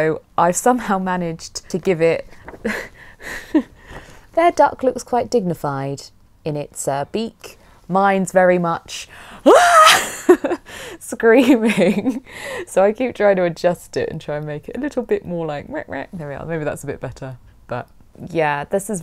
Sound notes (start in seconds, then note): 9.5 screams